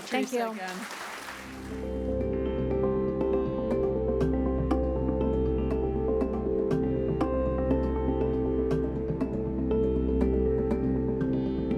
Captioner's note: applause